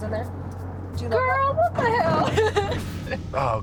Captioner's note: laughing